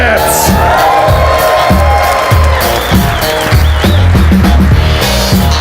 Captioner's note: audience cheers and applauds